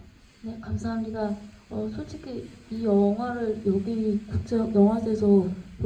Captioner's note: speaks in foreign language